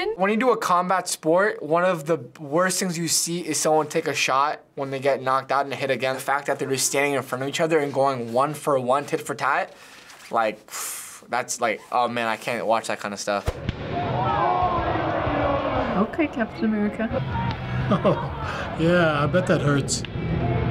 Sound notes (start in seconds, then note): 10.6 sighs; 17.6 chuckles